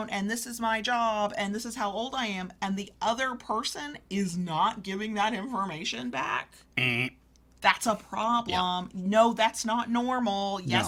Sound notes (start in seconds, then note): 6.8 grunts